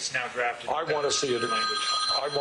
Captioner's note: ring